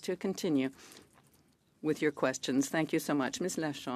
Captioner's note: speaking French